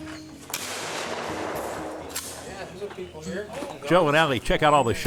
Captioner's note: gun shots